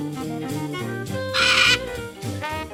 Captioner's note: parrot chirps